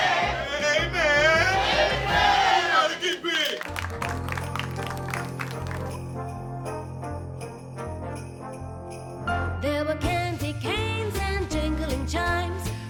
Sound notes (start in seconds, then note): 3.9 all applauding; 3.9 upbeat holiday music